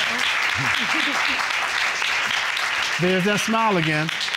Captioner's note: applause